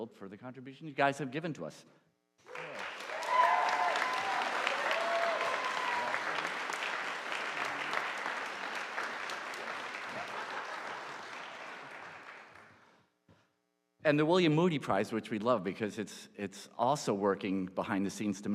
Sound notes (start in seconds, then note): 3.0 audience applauding